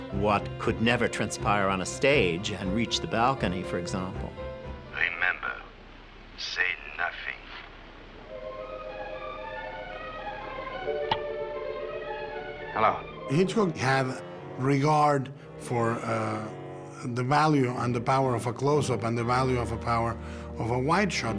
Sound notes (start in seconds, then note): 11.0 phone clicks